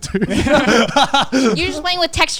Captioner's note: all laughing